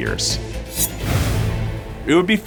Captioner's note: air whooshing